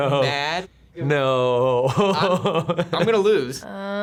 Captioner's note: chuckles; laughs